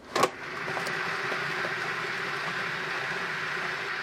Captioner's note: whirring